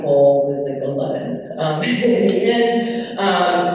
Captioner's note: laughs